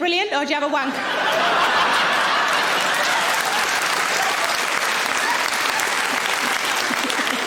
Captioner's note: audience laughing; audience applauds